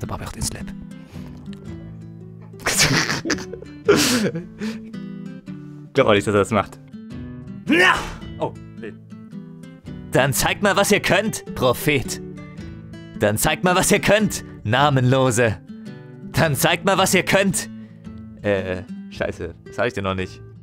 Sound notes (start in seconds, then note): 2.6 laughter